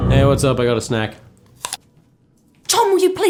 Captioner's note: crunch